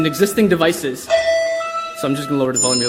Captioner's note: ringing